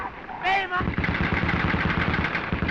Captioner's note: firing continues